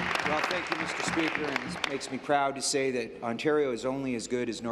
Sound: applause

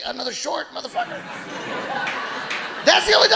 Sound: audience laughing

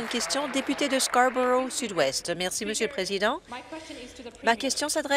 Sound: applause

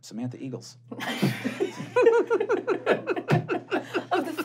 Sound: laughing

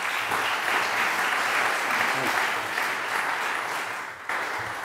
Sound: applause

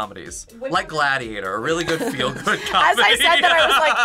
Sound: laughs

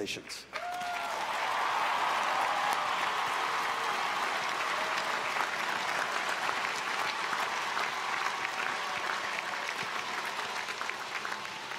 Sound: applause

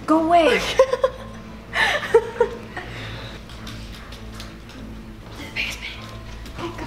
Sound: laughs

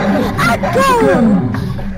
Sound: womp Womp

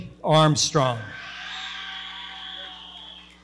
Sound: audience cheering

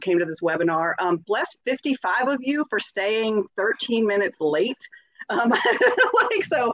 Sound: laughs

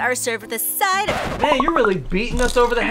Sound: record scratches

